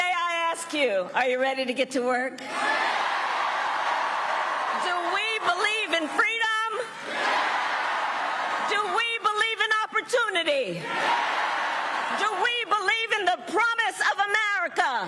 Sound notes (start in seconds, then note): 0.0 cheering and applause; 7.8 cheering and applause